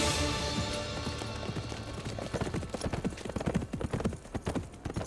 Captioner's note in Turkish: At nalı sesi